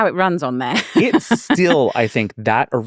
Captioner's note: laughing